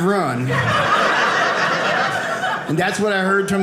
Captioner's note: audience laughing